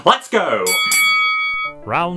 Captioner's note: bell dings